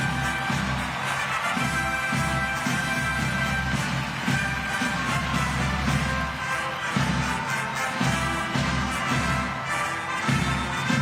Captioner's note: applause